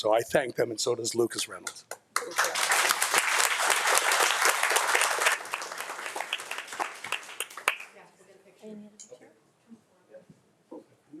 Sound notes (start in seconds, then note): 2.1 audience applauding